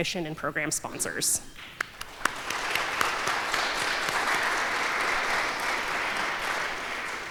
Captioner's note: applause